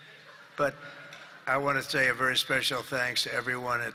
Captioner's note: laughter